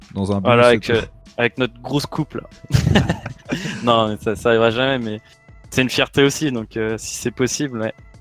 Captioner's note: laughs